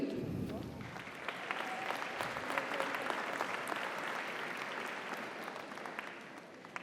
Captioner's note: audience applauds; audience cheers